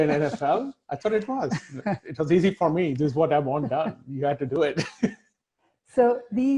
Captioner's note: laughing